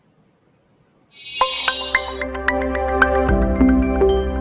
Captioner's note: bells chiming